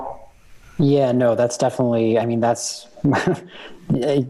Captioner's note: chuckle